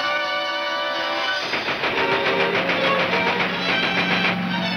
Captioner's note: gunshots banging